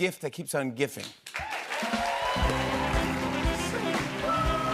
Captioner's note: cheers and applause